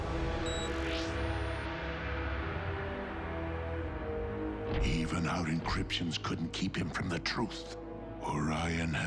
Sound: beep

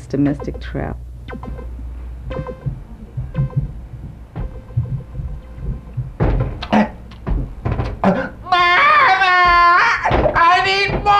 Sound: cries

